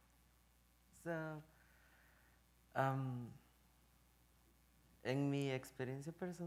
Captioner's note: speaking in Spanish